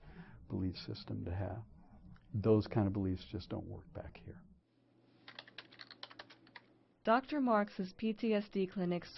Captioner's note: typing